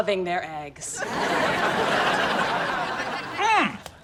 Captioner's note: laughs